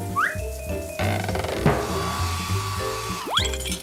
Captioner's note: hair dryer whirring